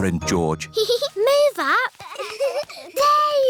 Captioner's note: peppa giggles